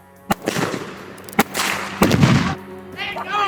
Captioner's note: gun banging